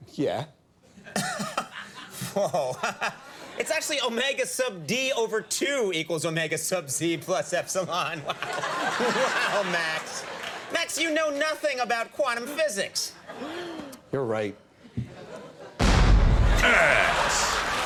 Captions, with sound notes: Yeah. (Conan laughs) It's actually Omega sub D over two equals Omega sub Z plus Epsilon, what? (audience laughs) Wow Max, Max you know nothing about quantum physics. You're right. Ass.